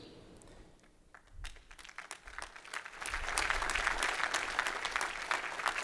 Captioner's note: applause